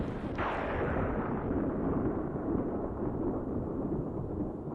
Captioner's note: thunder rumbles